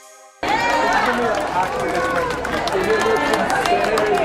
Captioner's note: clapping